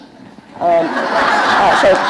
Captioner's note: laughter